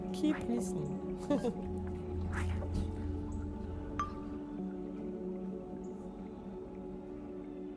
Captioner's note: laughing